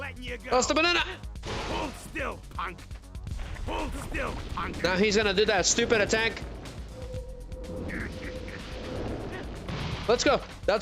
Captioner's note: groaning